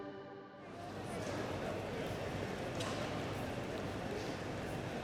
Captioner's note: street noise